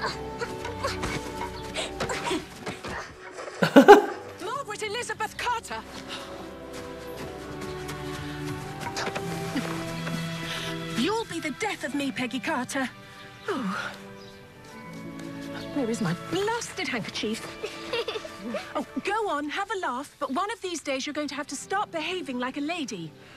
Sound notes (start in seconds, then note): 0.3 gentle instrumental music; 3.6 laughing; 9.1 gentle instrumental music; 17.5 laughing together